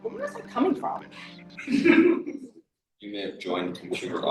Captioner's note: laughs